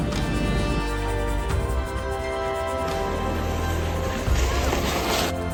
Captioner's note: upbeat music; water splashing; upbeat music